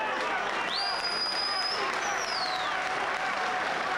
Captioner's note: crowd cheering